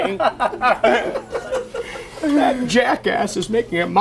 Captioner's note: everyone laughs